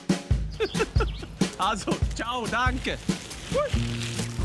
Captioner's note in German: Lachend